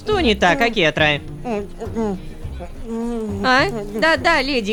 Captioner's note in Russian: мычит